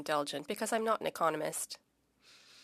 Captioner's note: speaking French